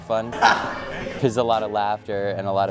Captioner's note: laughing